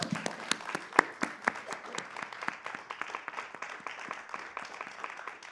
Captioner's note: applause